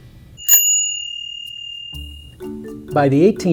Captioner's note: ring!